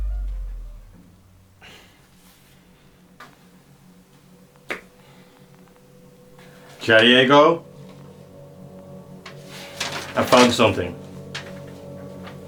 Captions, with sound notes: [Sigh] Jadiego? I found something.